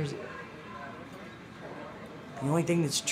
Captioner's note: indistinct chatter